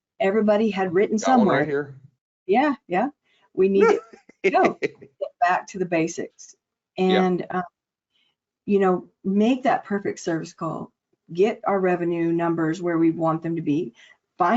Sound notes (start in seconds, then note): 4.4 laughing